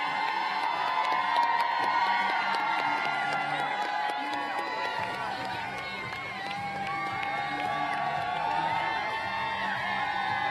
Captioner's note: applause